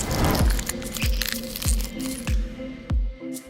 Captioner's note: crackling